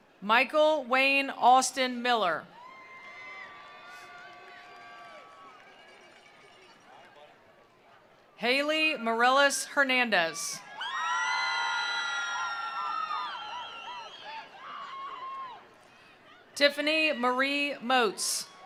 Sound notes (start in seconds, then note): 2.5 attendees cheering; 2.8 attendees applauding; 10.1 attendees cheering; 11.1 attendees applauding